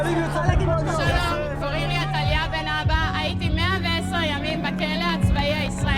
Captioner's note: speaking foreign language